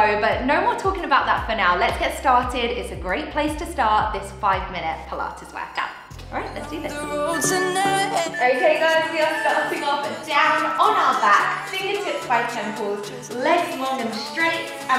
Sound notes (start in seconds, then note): 6.4 timer beeping